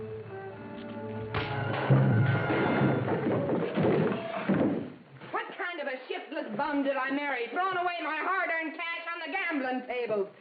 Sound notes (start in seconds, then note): 1.7 chair bumps on the floor